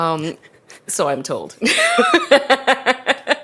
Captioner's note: both laugh